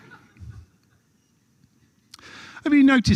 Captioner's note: laughter